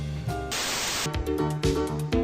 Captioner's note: TV static